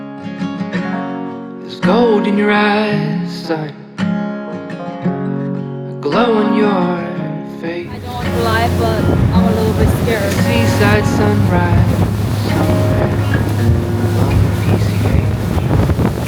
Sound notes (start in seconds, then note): 10.9 heavy wind